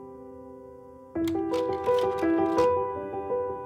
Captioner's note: projector clicks